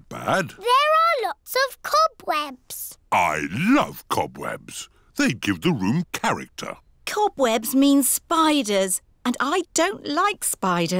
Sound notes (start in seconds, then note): none